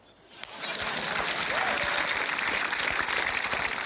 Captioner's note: applause